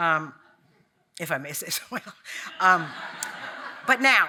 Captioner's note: audience laughing